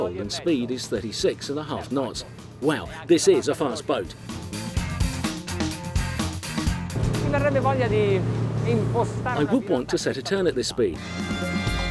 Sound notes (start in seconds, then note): 4.4 upbeat music; 7.6 speaks in foreign language